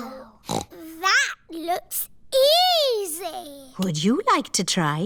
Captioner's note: snorts